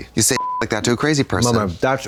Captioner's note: beep